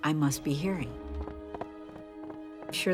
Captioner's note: footsteps